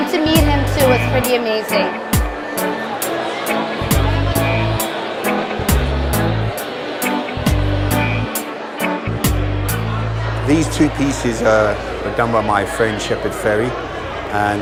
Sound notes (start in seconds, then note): 3.4 crowd noise; 3.4 music resolves